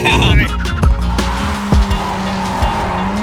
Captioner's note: tires skidding